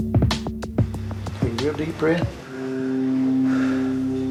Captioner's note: breathes audibly